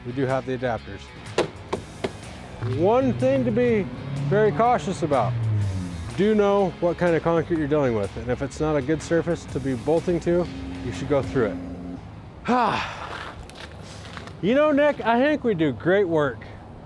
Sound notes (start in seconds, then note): 13.7 exhales